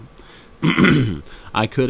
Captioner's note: clears throat